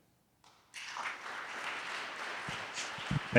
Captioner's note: audience applauding